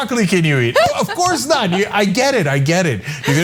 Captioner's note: laugh